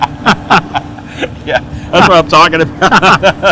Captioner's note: laughing